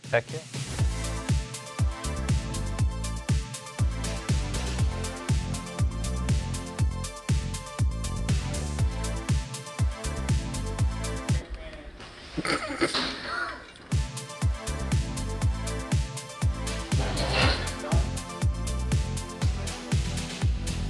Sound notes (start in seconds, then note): 1.3 upbeat instrumental music; 12.3 cameraman laughs; 13.7 upbeat instrumental music